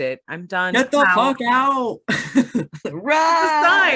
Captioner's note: laughs